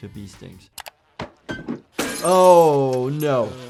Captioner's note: clicking; glass shattering